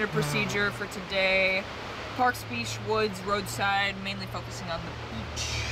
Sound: sighs

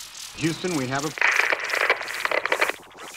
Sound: radio crackles

